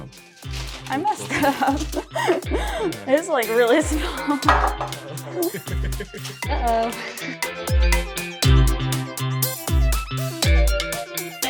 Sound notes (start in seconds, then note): 0.0 electronic music plays; 1.2 laughing; 4.9 laughing; 7.7 electronic music continues